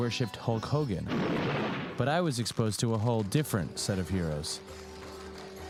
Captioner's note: thunderclap